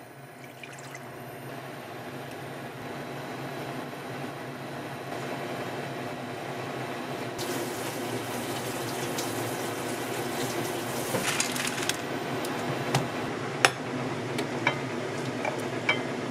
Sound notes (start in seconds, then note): 7.4 dishwashing